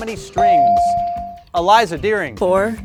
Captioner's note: bell dings